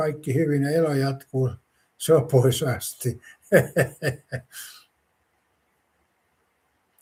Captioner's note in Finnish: naurua